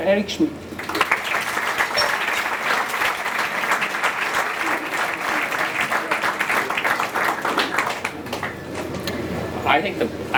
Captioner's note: applause